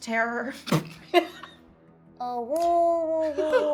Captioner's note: laughing